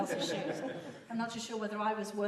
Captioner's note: laughter